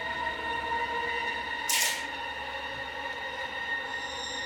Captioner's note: gun clicks